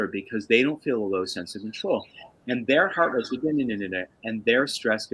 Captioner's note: makes noise - nuhnnuhnuh